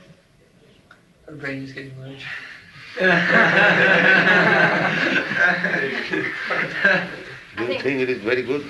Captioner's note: laughter